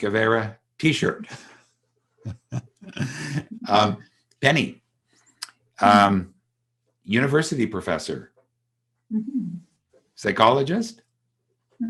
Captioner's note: chuckles